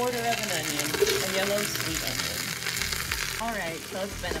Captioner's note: pot sizzles